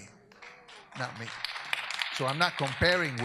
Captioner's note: audience applauds